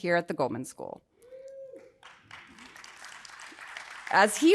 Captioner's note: audience applauding